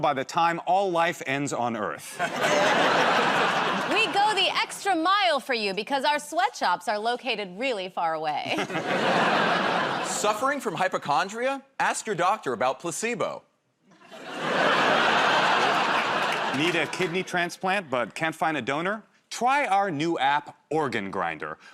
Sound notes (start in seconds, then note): 13.9 laughter